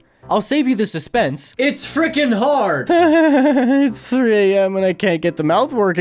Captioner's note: maniacal, sleep-deprived laughter